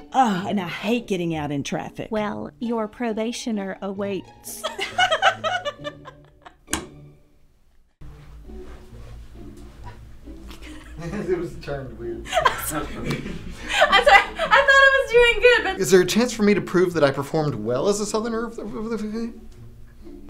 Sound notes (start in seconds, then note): 4.6 both giggle